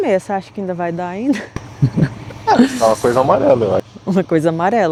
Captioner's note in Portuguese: risadas